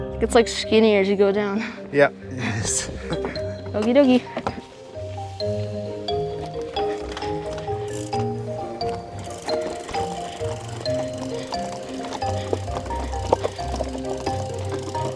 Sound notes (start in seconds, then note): 2.2 chuckles; 5.6 uplifting music; 9.0 gears turning